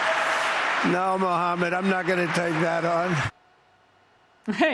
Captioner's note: cheers and applause